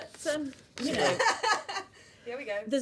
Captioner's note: laughter